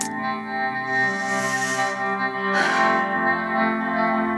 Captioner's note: Sighs